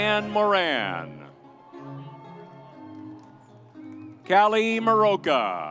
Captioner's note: audience cheers